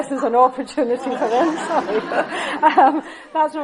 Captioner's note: laughter